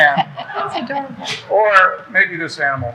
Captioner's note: people laughing